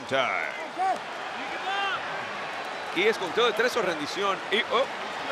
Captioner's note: applause